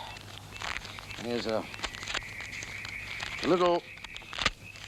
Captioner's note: paper money snapping